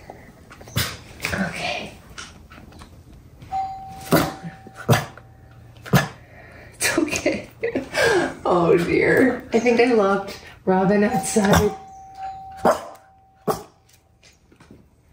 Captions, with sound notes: Okay. (ding) It's okay! Oh, dear! I think I locked Robin outside! (ding) (woof) (ding)